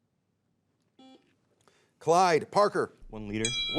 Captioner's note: bell chimes